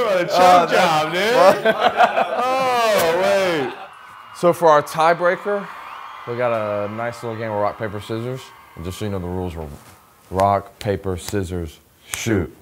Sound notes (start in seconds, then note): 1.2 man laughing; 4.1 crowd cheering